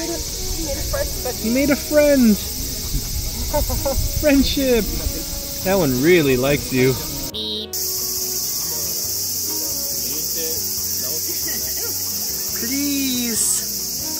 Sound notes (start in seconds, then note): 9.0 the cicadas are still screaming